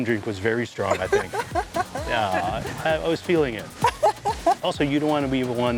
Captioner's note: laughs